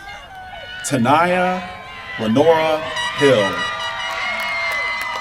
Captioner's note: applause